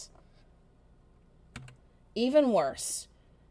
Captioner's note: keyboard clicks